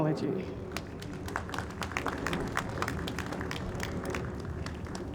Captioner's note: audience applauds